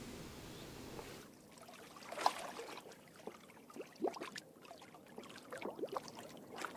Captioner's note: waves hitting against a boat